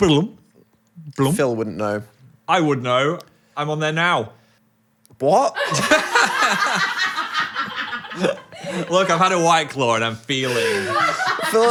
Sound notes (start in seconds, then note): 5.6 Phil and crew laughing